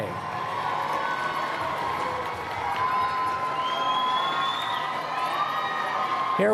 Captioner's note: cheering